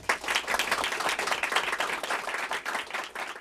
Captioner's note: applause